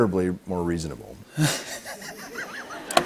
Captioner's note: light laughter